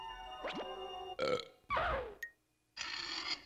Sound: burping

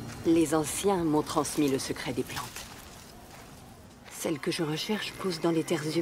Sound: woman speaks in foreign language

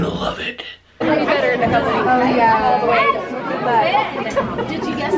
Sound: people talking

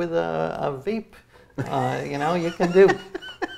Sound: laughs

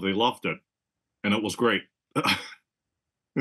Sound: laugh

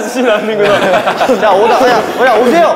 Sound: squeaking

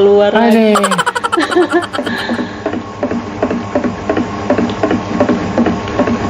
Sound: laughs

